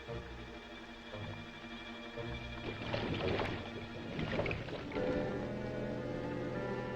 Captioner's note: soft uneasy music; water bubbling